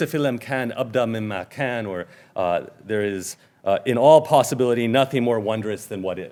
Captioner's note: speaking in Arabic